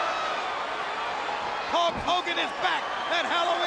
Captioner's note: crowd cheering; crowd chatter